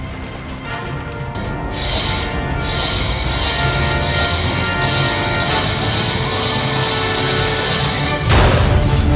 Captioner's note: Warp engines accelerate